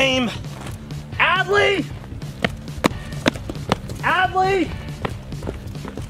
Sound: footsteps thud

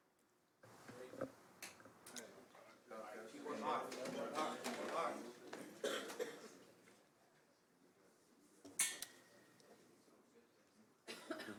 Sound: laughter

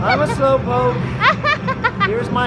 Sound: laughing

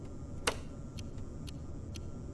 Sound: ticking

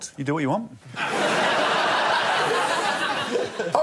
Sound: laughter

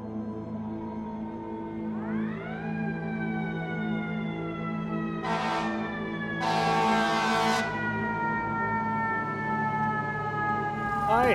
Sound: sirens

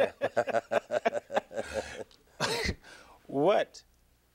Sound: Listervelt and Reverend Jackson laughing

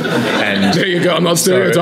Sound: laughing

